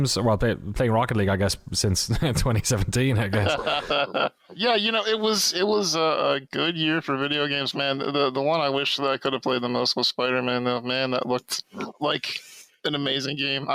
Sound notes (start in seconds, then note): 3.3 laughs